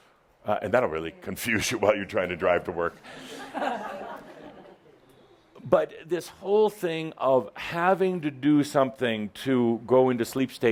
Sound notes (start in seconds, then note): 3.1 some laughter